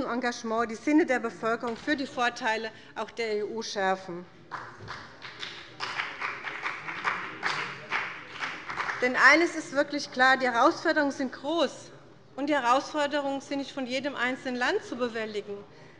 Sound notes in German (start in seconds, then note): 4.5 Beifall bei dem BÜNDNIS 90/DIE GRÜNEN und der CDU